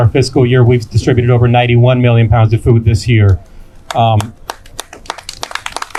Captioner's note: clapping